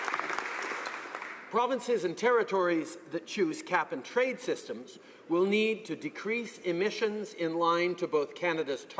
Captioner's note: applause